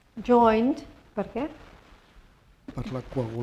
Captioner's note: spanish; speaking spanish